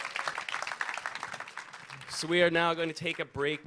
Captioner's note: audience applauds